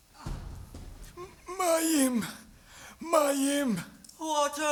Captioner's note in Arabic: بالعبري